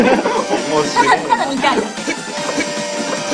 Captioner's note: drone